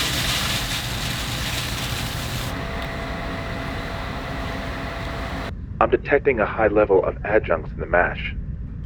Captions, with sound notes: (grain crackling) I'm detecting a high level of adjuncts in the mash.